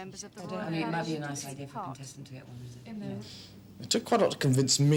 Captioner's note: committee chattering